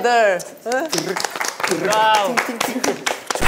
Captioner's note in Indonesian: tepuk tangan